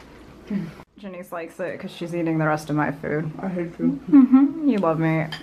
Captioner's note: says with her mouth full